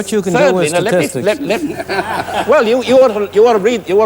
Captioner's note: laughter